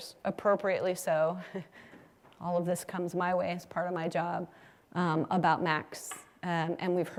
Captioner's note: laugh